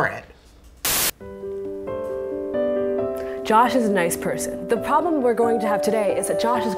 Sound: tv static

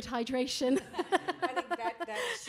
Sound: laughs

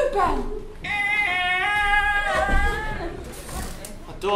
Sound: a door opening

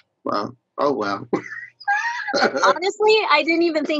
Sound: all laughing

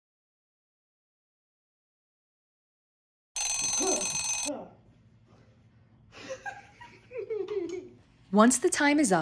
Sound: timer Rings

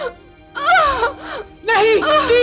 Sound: groans

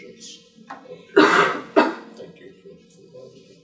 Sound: coughing drowns out speaker

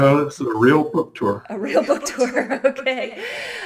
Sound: laughs

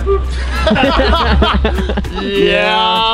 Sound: laughing

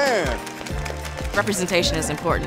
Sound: applause

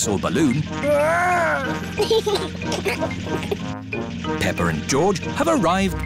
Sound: giggles

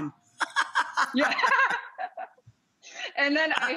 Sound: laughs

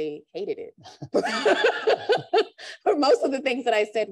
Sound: laughter

